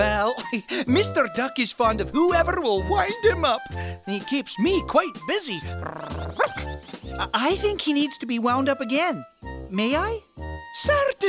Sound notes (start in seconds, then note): 5.9 bark